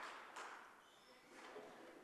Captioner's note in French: parlant sans microphone